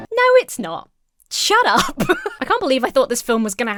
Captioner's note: Emma laughs